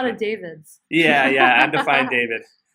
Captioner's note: laughs